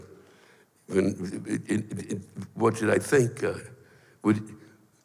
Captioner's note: stammers